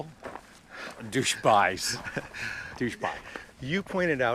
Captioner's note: laughs